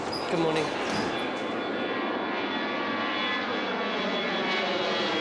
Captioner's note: jet engines roaring